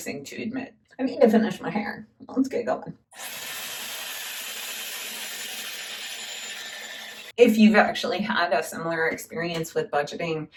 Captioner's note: hairdryer